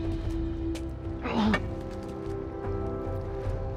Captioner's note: grunt